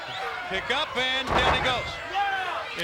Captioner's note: body thudding